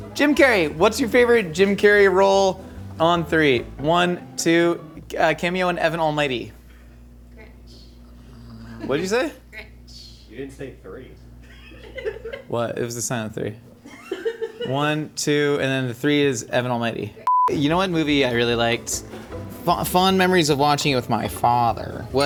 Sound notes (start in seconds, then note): 12.0 crew laughing; 13.8 crew member laughing; 17.2 tone beeps